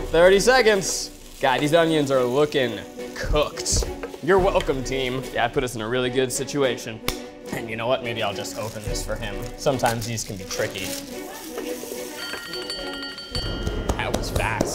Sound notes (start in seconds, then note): 12.3 alarm ringing; 13.6 clapping